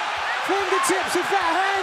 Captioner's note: cheers and applause